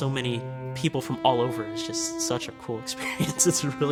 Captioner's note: laughs